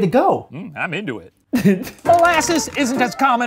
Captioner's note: laughing